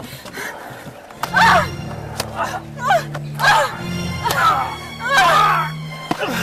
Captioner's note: people grunting and yelling